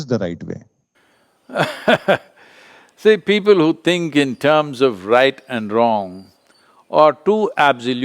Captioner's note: laughs